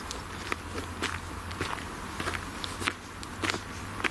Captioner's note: footsteps